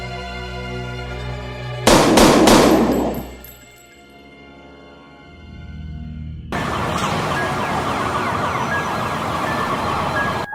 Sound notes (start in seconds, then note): 1.8 gunshots